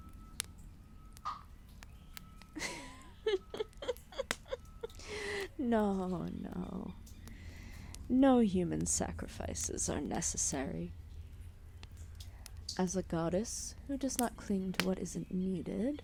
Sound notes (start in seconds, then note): 2.6 laughter